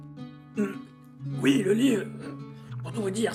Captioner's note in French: Tousse